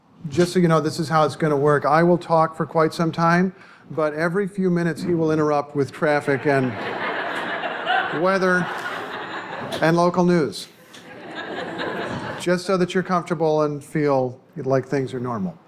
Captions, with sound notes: Just so you know, this is how it's going to work. I will talk for quite some time, but every few minutes, he will interrupt with traffic. [laughter] And weather and local news. [laughter] Just so that you're comfortable and feel like things are normal.